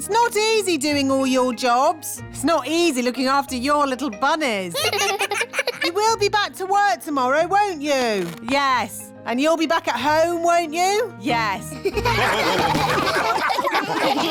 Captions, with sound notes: It's not easy doing all your jobs. It's not easy looking after your little bunnies. (CHILDREN LAUGH) You will be back to work tomorrow, won't you? Yes. And you'll be back at home, won't you? Yes. (ALL LAUGH)